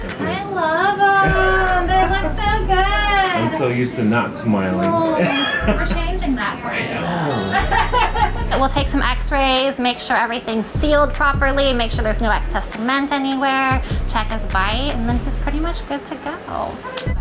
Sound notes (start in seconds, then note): 1.3 chuckling; 5.0 chuckles; 7.5 laughing